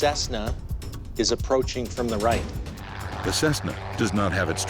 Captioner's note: turboprop drones